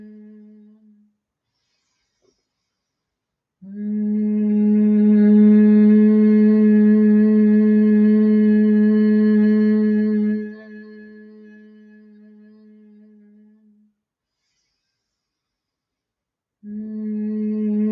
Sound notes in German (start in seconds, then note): 2.7 Summen